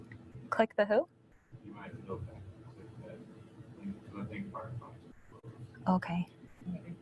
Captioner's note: audience member speaks from a distance; audience member speaks from a distance